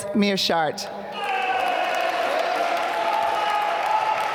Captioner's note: applause